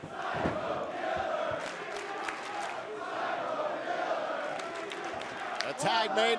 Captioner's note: fans chanting